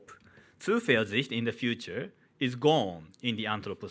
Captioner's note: man speaking in foreign language